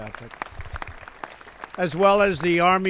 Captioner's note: applause